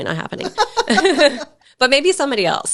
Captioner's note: chuckle